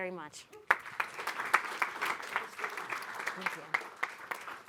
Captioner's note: audience applauding